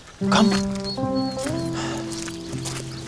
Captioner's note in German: Winseln